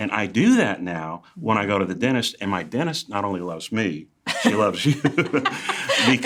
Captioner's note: laughter